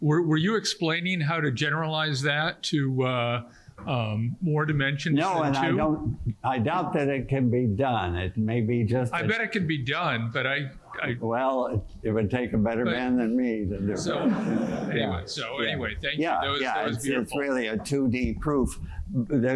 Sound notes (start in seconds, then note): 14.0 laughter